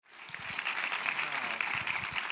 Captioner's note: audience clapping